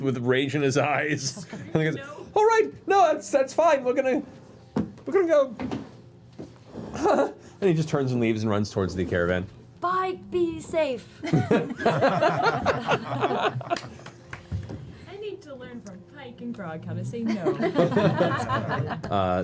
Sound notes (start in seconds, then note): 11.2 laughter; 17.3 laughter